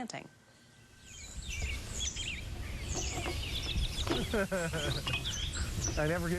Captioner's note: birds tweeting